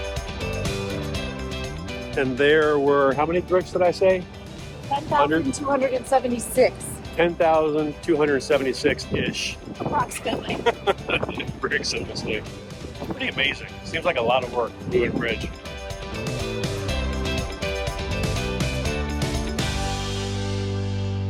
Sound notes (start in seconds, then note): 0.2 upbeat music; 10.2 laughs; 18.6 upbeat music